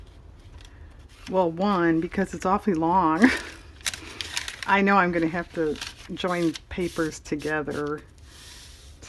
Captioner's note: laughs